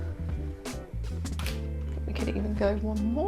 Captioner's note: camera light flicking